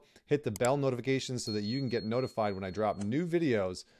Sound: bell ringing lightly

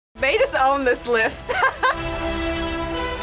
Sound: laughs

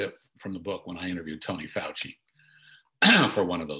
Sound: clears throat

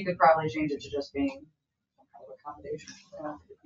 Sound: speaks faintly

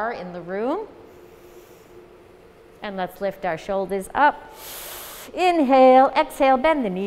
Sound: inhale

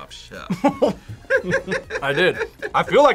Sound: both laugh

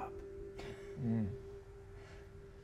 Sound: chuckles softly

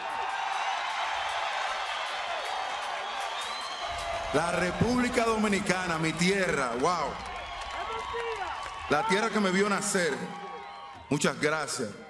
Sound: speaking spanish

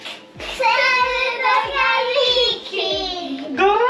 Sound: peoples chant!

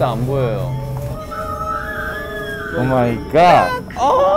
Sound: spooky sound

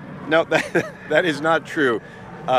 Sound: laughing

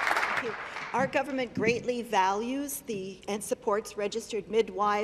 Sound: applause

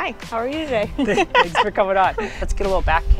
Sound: both laugh

